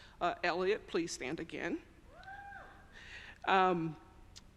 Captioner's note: audience cheers